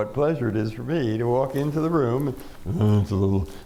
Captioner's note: imitating glumness